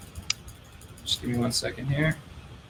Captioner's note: clicking